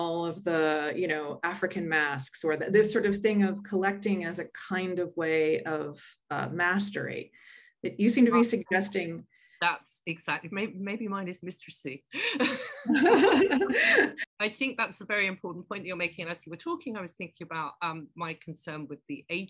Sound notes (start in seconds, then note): 12.2 laughter